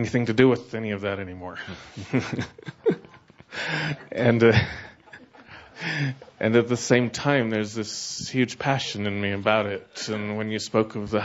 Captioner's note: he chuckles